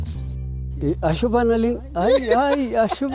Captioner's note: speaking in foreign language; people laugh